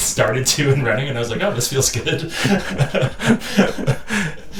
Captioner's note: laughing